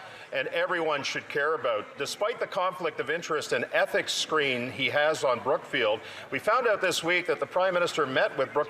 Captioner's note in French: voix de l'interprète